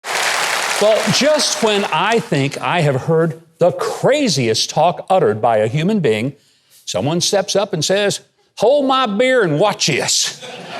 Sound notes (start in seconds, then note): 0.0 audience applauding